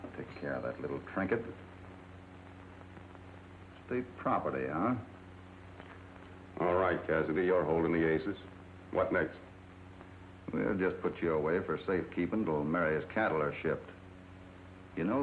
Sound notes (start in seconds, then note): none